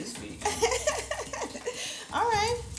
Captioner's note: laughs